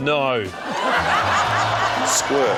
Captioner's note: laughter